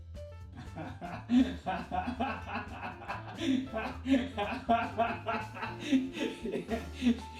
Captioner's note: laughing